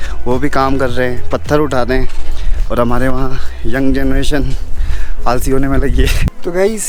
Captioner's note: laughs